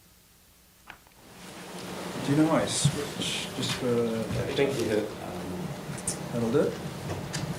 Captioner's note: silence; rustling